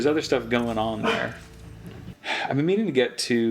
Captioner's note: bark